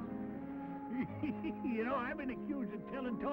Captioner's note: laughs